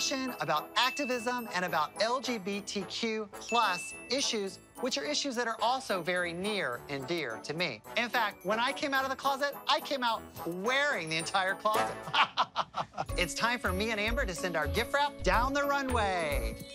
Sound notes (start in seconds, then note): 12.0 laughs